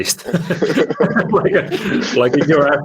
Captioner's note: laughter